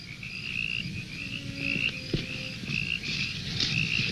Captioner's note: crickets chirping